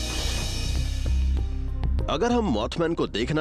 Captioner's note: narrating